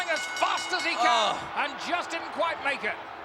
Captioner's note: ring bell dinging